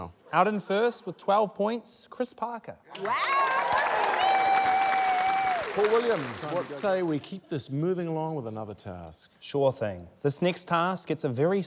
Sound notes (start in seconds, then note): 2.9 cheering, applause